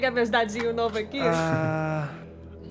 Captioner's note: laughter